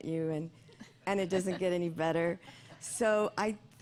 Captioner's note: laughter